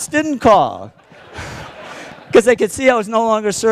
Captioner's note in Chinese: Laughter; 笑聲